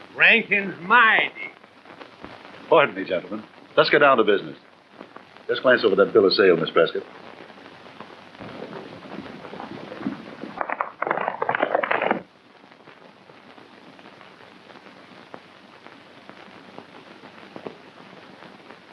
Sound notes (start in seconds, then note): 8.4 hooves clomping